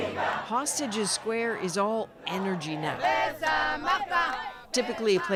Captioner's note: chanting